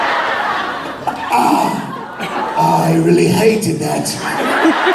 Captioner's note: raspy British accent, feigning annoyance; audience laughing and cheering